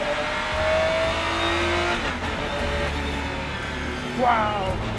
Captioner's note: engine roaring